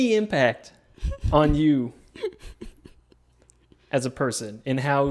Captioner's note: laughing